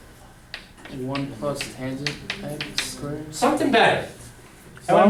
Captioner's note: voiceover